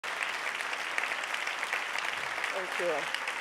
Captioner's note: audience applauding